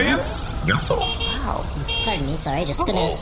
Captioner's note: high-pitched car horn beeping